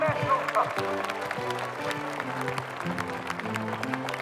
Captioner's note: crowd applauding